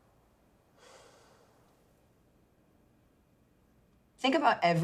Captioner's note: sighs